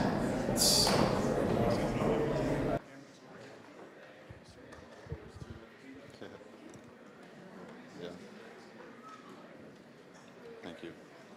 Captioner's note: general chatter